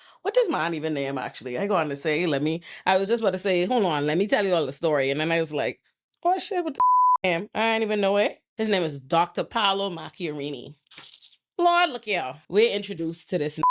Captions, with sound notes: What does my Aunty Vanayama actually, I go on to say, let me, I was just about to say, hold on, let me tell you all the story. And then I was like, oh shit, what the (beep) I ain't even know it. His name is Dr. Paolo Macchiarini. Lord, look here. We're introduced to this